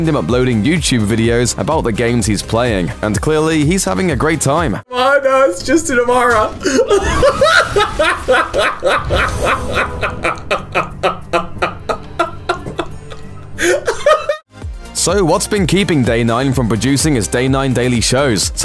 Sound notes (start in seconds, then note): 6.5 maniacal laughing